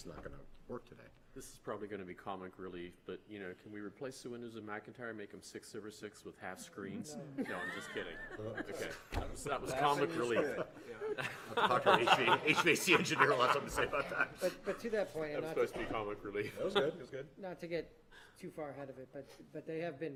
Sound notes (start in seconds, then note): 10.0 laughter